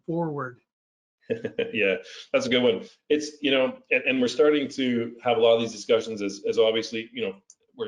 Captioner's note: laugh